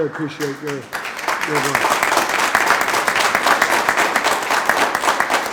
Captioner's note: group applauding